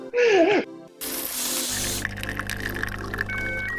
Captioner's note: coffee pouring